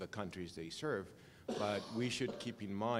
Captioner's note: cough